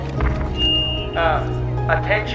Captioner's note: megaphone clicks on